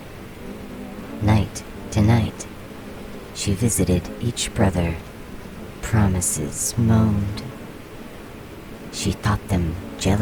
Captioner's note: moaned